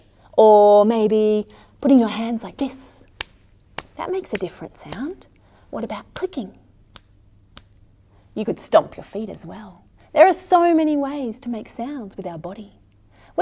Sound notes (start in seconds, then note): 6.5 clicking sounds can be heard